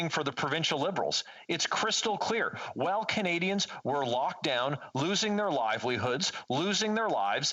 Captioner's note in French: voix de l'interprète